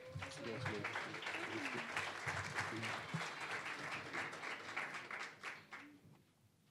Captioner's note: applause